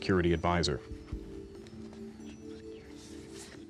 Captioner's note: whispering